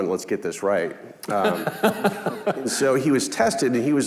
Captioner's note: laughing